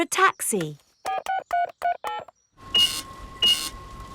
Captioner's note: dialing; cash register beeping